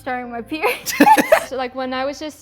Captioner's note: laugh